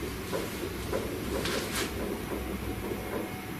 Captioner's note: tapping